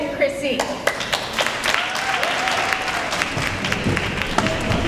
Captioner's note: applause